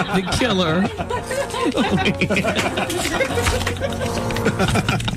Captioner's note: laughter